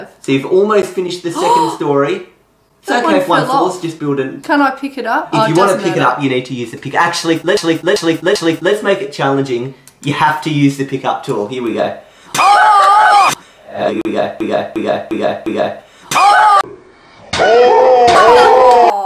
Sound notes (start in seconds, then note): 1.3 gasp; 12.3 laugh; 16.1 laugh